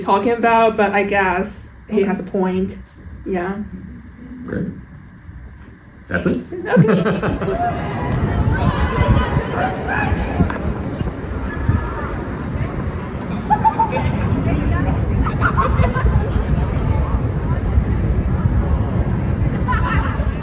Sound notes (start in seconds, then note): 6.1 people talking, birds chirping, general commotion, laughter; 6.5 laughter